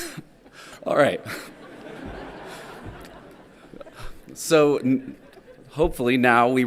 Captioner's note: laughs; everyone laughing